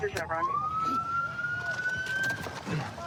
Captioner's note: sirens